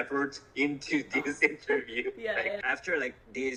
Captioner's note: laughs